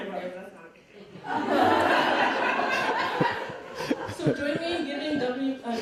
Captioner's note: audience laughing